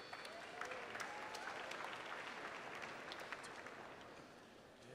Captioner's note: cheers and applause